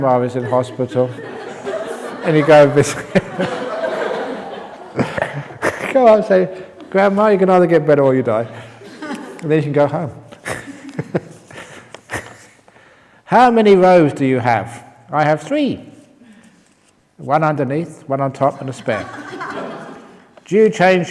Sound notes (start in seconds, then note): 4.0 laughter; 12.5 chuckles